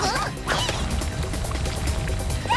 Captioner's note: alex yelps and groans